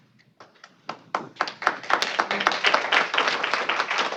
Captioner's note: applause